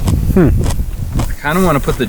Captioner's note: lettuce crunching